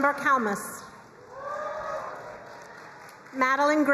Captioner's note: crowd cheering and applauding